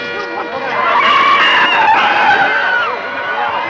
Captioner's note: all Screaming